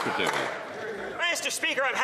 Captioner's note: some Applause